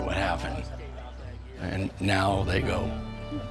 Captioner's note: people laughing